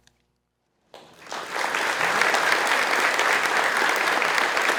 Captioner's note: audience applauding